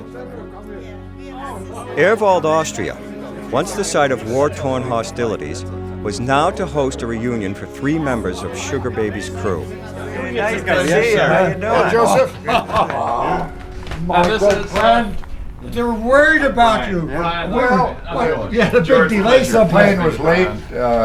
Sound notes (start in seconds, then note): 6.7 non-english speech